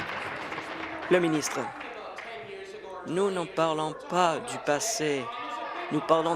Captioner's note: applause